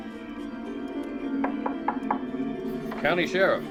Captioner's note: knocking on door